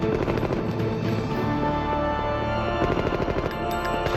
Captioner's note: guns firing